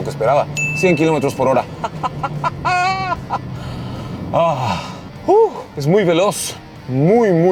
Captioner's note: laughs